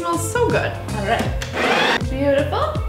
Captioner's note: machine whirring